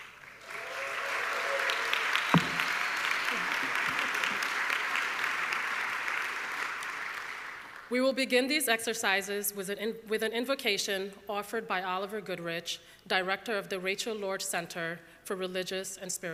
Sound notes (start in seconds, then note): 0.0 audience clapping